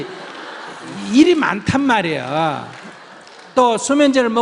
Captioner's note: audience Laughter